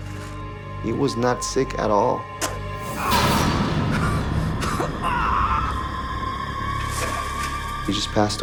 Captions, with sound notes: He was not sick at all. (groaning) He just passed away.